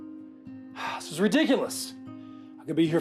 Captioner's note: sighs